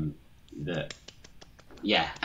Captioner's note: claps